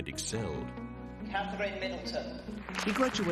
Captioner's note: audience applauds